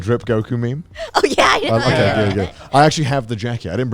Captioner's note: laughs